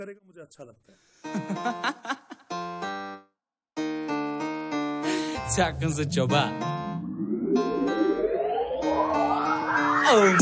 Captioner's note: sarcastic laugh